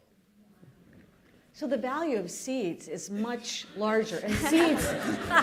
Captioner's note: laughter